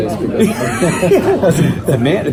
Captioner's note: laughs